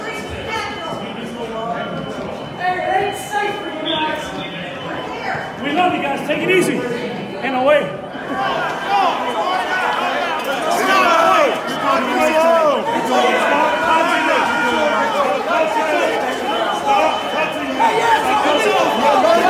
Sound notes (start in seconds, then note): 0.1 crowd murmuring; 8.3 crowd yelling